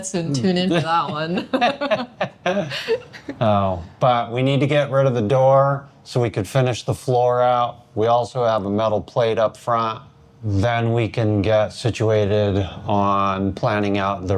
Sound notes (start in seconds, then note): 0.5 laughing